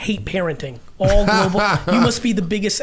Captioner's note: laughing